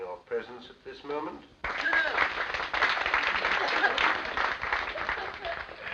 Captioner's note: applause